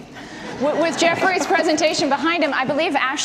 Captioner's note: audience laughter